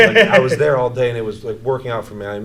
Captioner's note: laughs